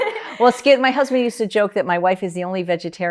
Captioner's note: laugh